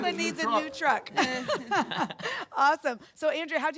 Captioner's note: laughing